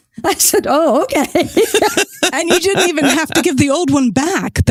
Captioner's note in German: Lachend